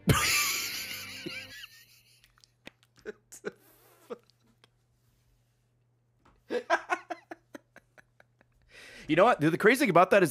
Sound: laughs

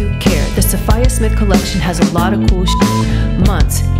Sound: beep

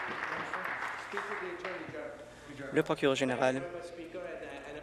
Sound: applause

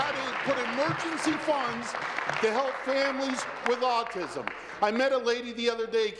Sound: applause

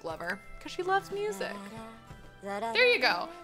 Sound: avatar humming

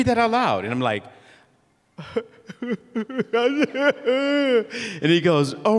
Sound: worried weeping noises

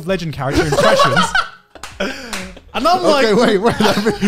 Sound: laughing

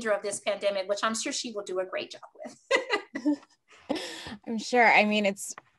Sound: laugh; laugh

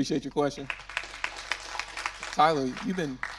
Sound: audience clapping

